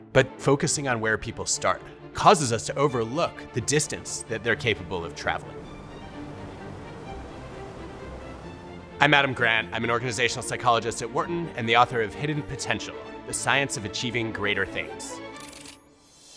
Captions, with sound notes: but focusing on where people start causes us to overlook the distance that they're capable of traveling. (upbeat orchestral music) (ocean whooshing) I'm Adam Grant. I'm an organizational psychologist at Wharton and the author of, "Hidden Potential: The Science of Achieving Greater Things."